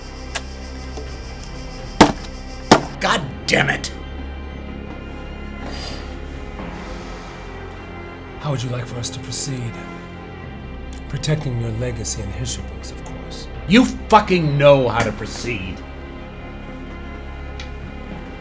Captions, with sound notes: [gun banging] [watch cracking] Goddammit. How would you like for us to proceed? Protecting your legacy and history, of course. You fucking know how to proceed.